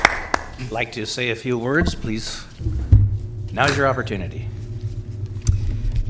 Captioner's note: applause